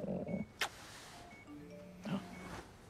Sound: phone dings

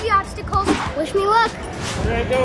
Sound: whoosh

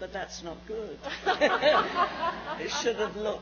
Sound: laughs

